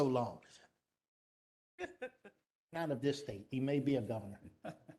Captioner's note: laughter; laughter